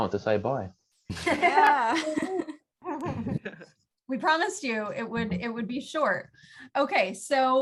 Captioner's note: laughter